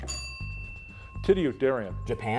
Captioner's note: bell ringing